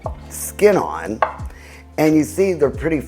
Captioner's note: knife thuds